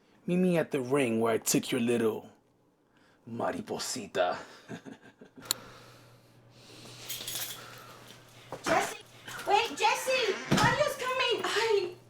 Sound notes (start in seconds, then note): 4.5 maniacal laugh, clicks phone off